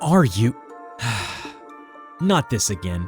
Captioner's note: sigh